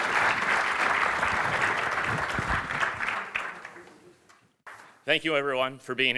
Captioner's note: applause